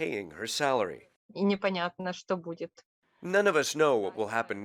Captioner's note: speaks in foreign language